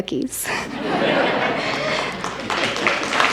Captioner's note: audience laughs; audience claps